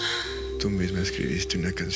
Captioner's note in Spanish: Suspiros